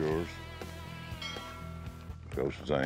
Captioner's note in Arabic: يرن الجرس